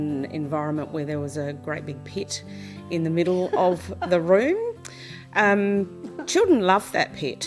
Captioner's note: chuckles